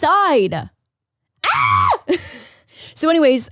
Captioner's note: screams